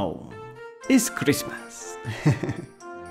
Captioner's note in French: rires